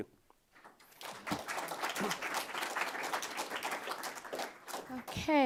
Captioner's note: applause